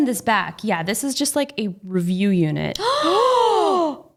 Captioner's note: both gasp